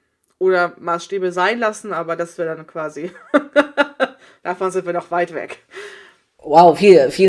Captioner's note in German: lacht